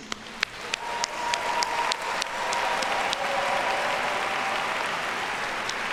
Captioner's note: audience cheers and applauds